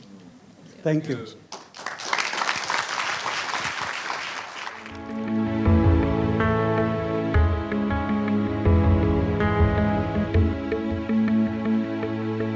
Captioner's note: applause